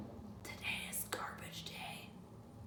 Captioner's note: whispering